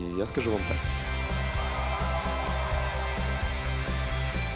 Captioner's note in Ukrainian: оплески